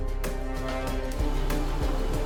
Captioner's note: whirring